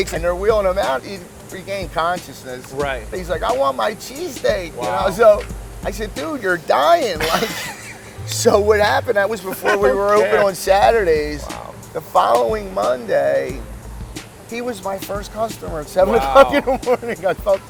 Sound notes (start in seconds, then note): 7.1 laughs